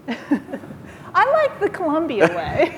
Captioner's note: laughing